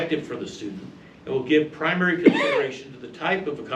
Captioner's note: male audience member coughs